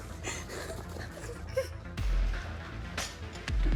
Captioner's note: Michelle crying; dramatic music